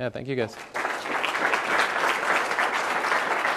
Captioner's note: applause